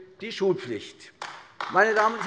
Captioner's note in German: Beifall AfD